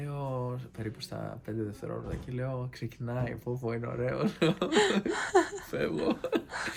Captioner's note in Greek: γέλια